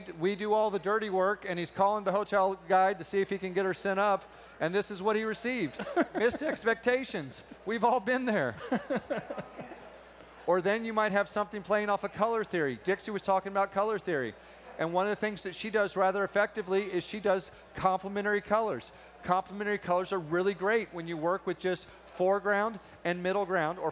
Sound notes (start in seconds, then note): 8.5 laughter